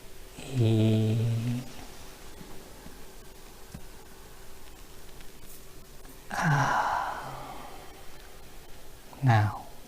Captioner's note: breathe